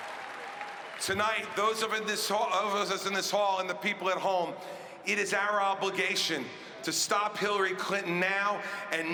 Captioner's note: cheering and applause